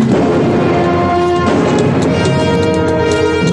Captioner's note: shot firing